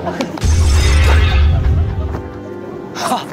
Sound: crash

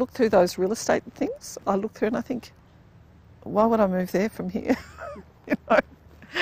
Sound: laughs

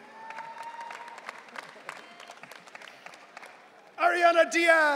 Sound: audience cheering

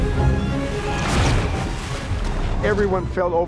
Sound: dramatic classic music; water thrashes

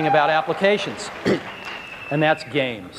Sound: audience cheers

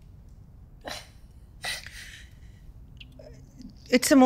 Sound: sisters sobbing

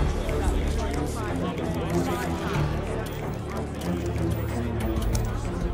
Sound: overlapping chatter

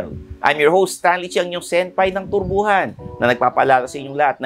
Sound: none

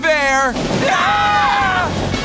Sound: screaming

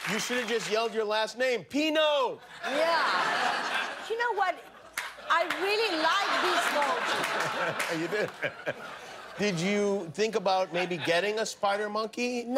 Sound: applause

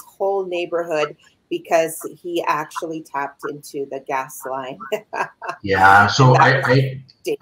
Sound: laughs

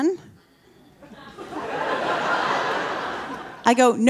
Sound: audience laughing

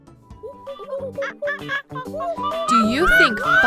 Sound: monkeys chitter

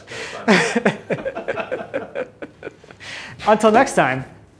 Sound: both laugh

